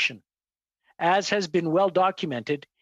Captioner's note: speaking english